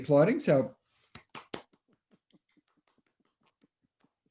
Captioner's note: both clapping